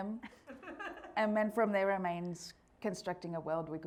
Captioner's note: audience laughing